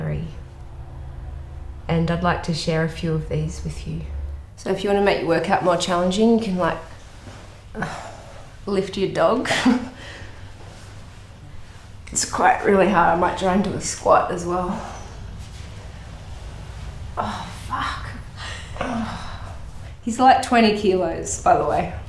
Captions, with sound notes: And I'd like to share a few of these with you. So if you wanna make your work-out more challenging, you can, like... (SIGHS) ..lift your dog. It's quite...really hard. I might try and do a squat as well. Oh, fuck! (GROANS) He's, like, 20 kilos, by the way.